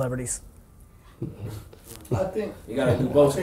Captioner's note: chuckling